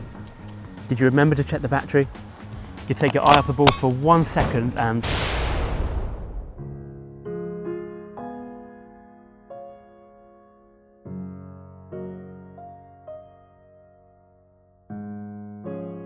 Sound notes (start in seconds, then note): 5.0 explosion